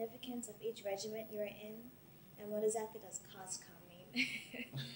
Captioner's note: both laugh